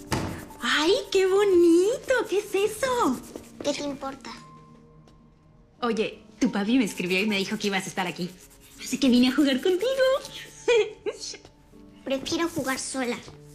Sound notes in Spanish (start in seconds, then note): 10.6 Ríe